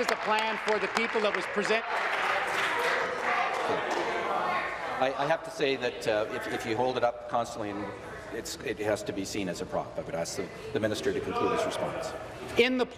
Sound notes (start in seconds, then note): 4.5 applause